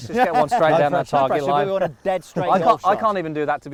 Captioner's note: laughs